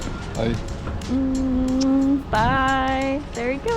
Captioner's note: kissing sounds